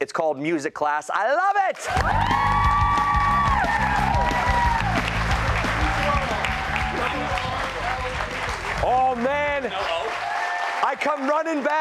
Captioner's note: cheers and applause